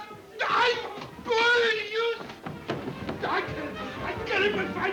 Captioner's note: footsteps plodding